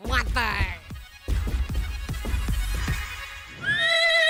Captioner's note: zapping